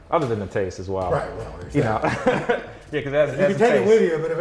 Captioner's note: laughs